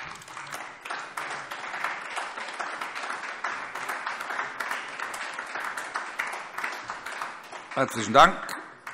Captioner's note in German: Beifall AfD